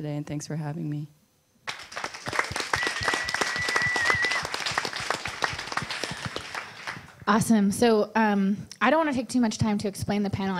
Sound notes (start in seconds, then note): 1.6 audience applause